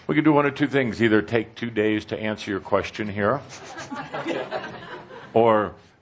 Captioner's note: laughter